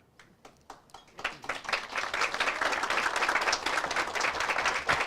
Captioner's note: audience applauds